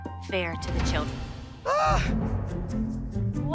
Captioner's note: Abby Lee groans